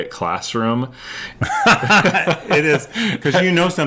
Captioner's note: both laugh